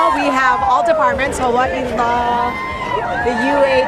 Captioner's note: crowd